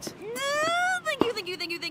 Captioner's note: squeals with excitement